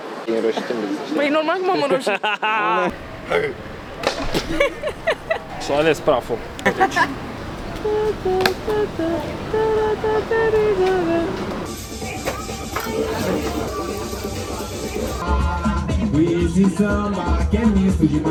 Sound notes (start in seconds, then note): 7.7 mumbles perché ti amo